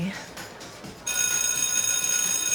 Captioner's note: school bell rings